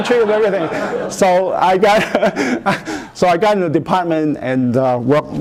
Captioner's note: laughter